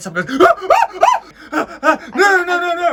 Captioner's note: gasps